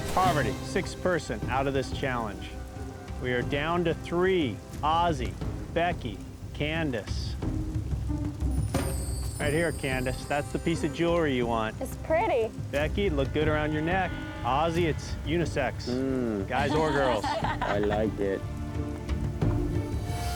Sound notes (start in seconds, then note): 16.0 everyone laughs